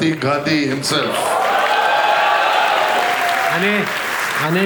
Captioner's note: crowd applauding